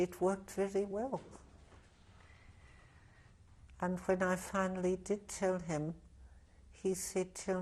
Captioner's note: pauses for 3 seconds